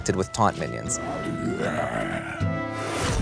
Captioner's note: Risen Footman moans